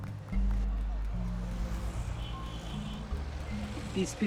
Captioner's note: indistinct chatter